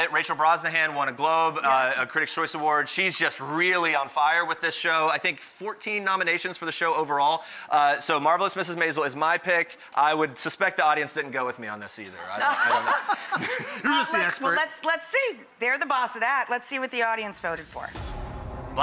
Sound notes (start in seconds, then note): 12.4 laughing